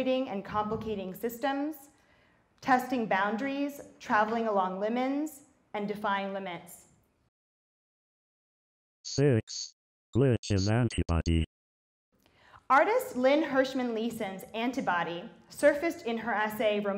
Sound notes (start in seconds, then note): 9.2 robot Voice